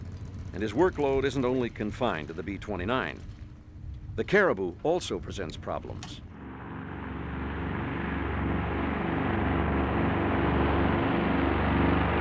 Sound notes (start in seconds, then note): none